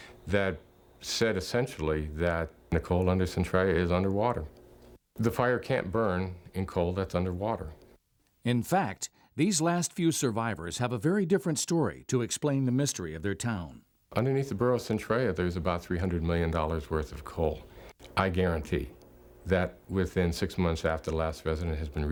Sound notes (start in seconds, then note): 8.6 voiceover